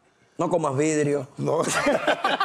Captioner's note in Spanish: Risas